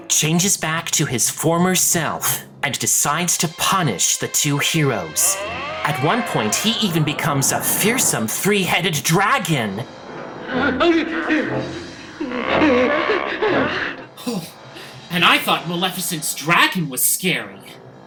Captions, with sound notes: changes back to his former self, and decides to punish the two heroes. At one point he even becomes a fearsome three-headed dragon! - (both shouting) - (Lucifer growls) And I thought Maleficent's dragon was scary!